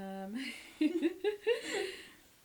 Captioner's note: both laugh